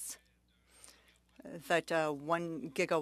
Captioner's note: speaking French